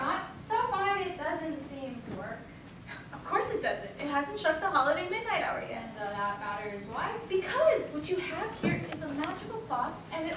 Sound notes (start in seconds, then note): 3.1 scoffs